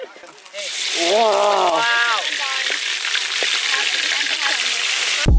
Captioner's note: pork sizzling